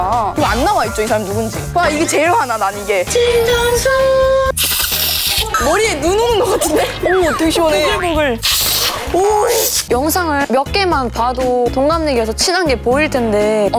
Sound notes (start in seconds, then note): 3.0 relaxing water; 4.5 spraying; 8.4 sprayyying